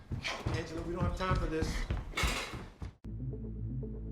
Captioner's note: dishes clatter